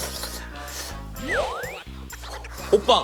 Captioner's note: puff~